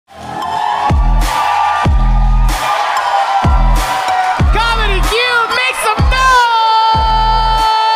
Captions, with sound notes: (audience cheering) (upbeat music) - Comedy Cube, make some noise!